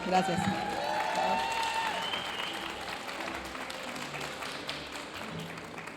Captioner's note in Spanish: aplausos y vítores de la audiencia